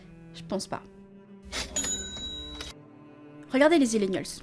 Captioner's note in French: bruit de caisse